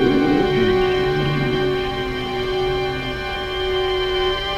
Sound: animal growls

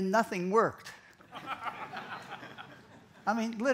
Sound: laughter

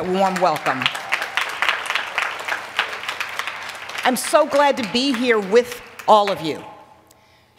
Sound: applause

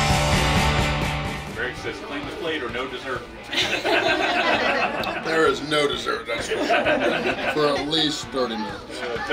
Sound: crowd

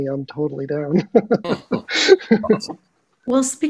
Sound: laughing

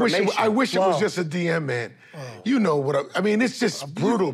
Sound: sighs

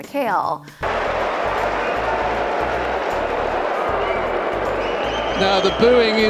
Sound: crowd Noise

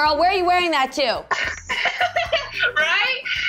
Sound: laughing

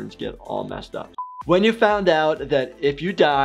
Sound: buzzer beeps

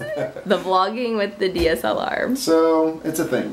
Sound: laughs

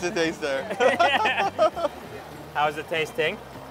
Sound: laughs

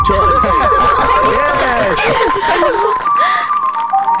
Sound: applause

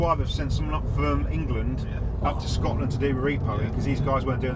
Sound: none

